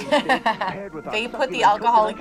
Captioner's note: laughs